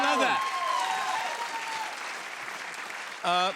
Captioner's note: cheers and applause